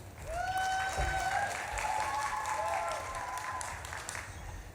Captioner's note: audience claps and cheers